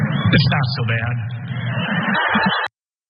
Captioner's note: laugh